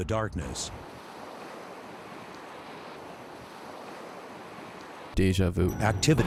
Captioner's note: ocean waves